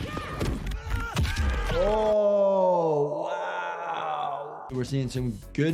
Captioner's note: character groans